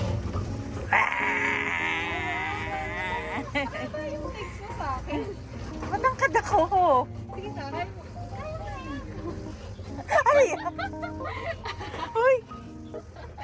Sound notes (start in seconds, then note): 0.0 background music; 1.3 makes annoying sound; 8.1 continuous laughter; 8.7 laughs